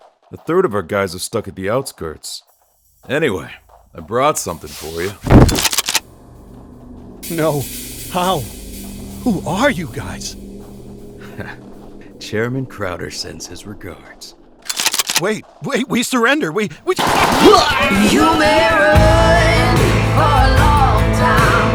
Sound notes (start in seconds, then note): 16.9 gun shots; 18.8 intro plays